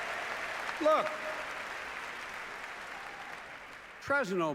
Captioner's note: applause